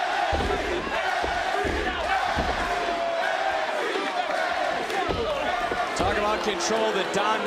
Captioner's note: crowd chants "nxt"